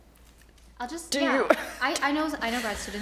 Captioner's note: chuckles